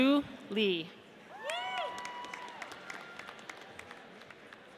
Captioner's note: audience applauds